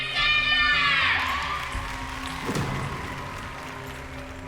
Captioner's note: applause